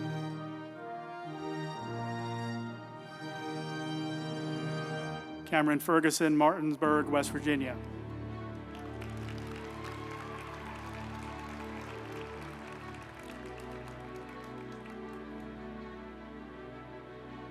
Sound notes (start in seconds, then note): 8.4 group applauding; 8.5 uplifting music